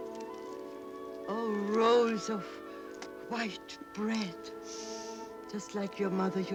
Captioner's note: sniffing